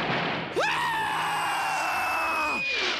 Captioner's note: screaming